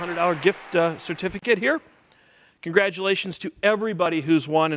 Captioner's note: applause